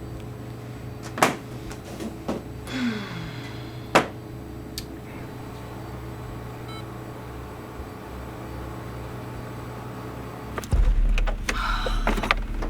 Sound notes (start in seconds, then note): 2.6 sighs; 6.6 computer beeps; 11.4 sighs